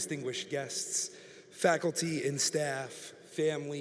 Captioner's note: none